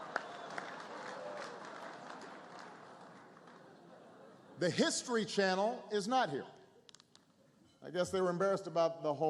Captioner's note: laughter